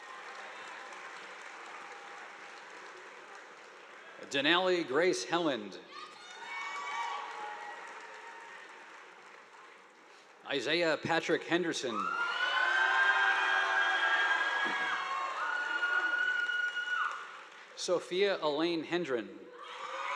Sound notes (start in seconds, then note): 0.0 audience applauding; 6.1 audience applauding; 11.9 students cheering; 12.0 audience applauding; 19.9 audience applauding